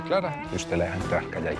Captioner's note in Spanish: none